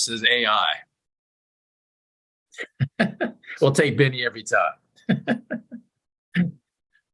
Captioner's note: chuckles